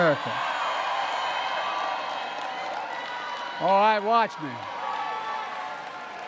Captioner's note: applause